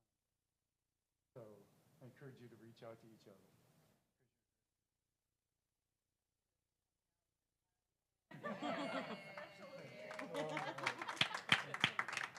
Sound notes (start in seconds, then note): 8.3 laugh; 12.2 applause